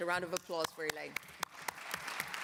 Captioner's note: applause